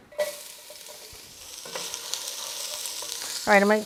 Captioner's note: onions sizzling